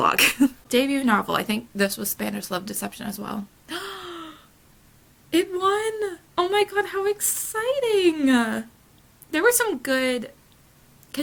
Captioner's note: gasp